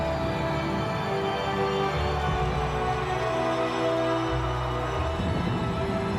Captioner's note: audience cheering; suspenseful music